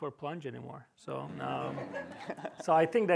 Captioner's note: laughter